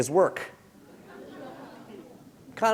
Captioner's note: chuckle